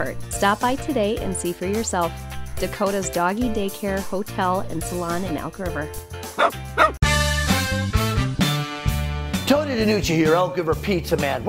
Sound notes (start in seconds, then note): 6.7 dog barking; 7.0 upbeat music